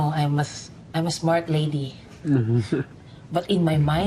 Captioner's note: chuckles